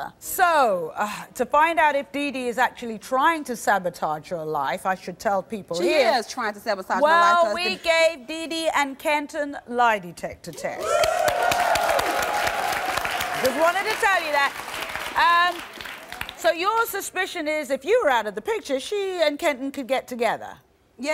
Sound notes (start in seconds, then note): 10.8 cheering; 10.8 applause